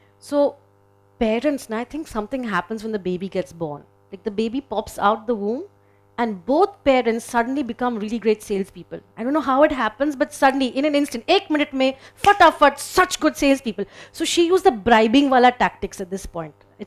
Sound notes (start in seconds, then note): 11.1 speaking in foreign language